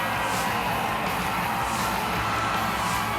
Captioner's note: pyro hisses